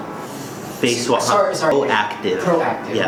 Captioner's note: male Voice